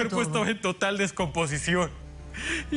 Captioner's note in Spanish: sollozos